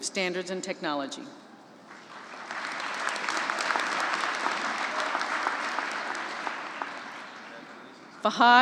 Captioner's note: applause